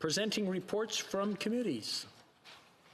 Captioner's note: speaking French